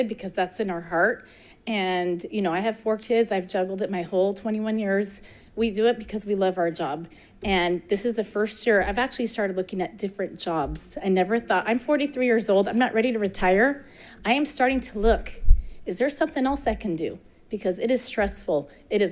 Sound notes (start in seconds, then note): none